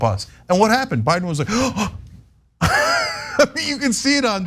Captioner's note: laugh